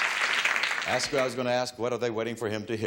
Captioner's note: audience applause